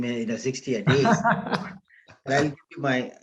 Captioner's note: laughter